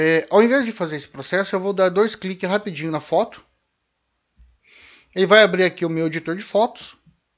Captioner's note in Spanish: en español